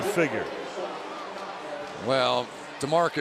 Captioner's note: pa announcement